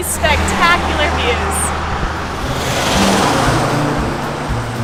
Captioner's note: cars rushing